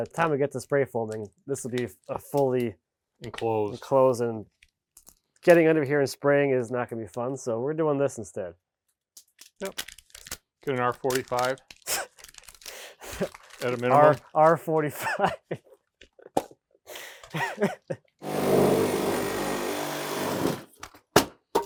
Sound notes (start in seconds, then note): 12.2 speaker laughing; 15.7 speaker laughing; 18.2 power tool whizzing; 21.4 foam deck knocking